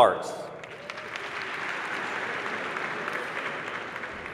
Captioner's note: applause